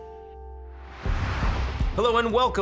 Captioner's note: air whooshing